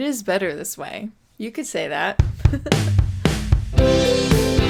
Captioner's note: laughs